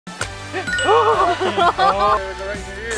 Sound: upbeat music; ding; laughing

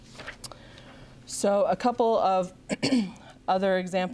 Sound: clears throat

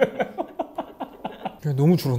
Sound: hahahaha

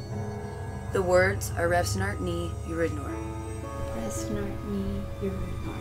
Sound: speaking in foreign language

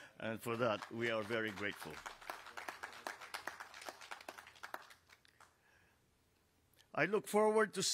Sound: applause

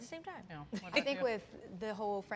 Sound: chuckles

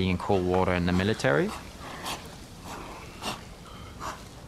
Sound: both gasp

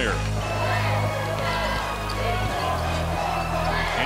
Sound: chanting

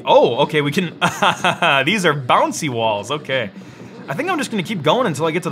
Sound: laughs

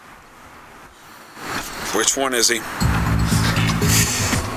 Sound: sighs

